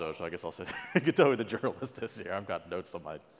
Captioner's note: laugh